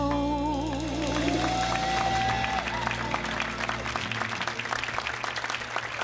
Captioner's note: audience cheers and applauds